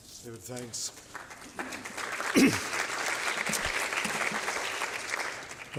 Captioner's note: applause